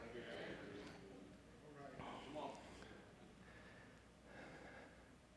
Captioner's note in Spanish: murmullos de congregación